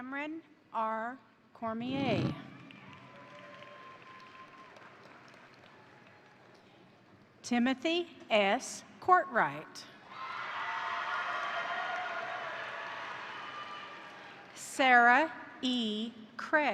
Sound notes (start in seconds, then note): 2.4 crowd cheering; 2.4 crowd applauding; 10.1 crowd cheering; 10.6 crowd applauding